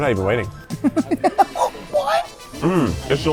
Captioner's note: laughs